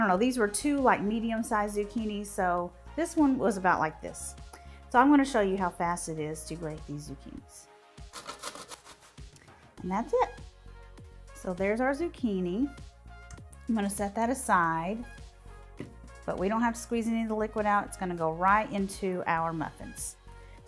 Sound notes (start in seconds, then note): 8.1 zucchini grating; 10.6 upbeat music